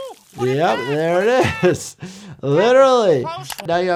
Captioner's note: laughs